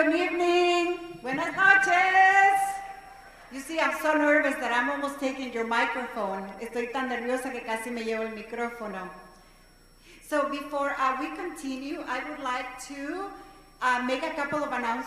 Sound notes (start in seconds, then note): 6.8 speaking non-english language